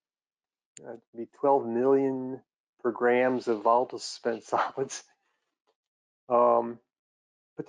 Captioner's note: laughs